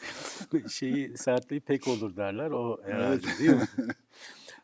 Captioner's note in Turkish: homurdanır; kahkaha